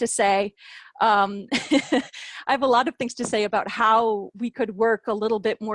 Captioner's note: laughter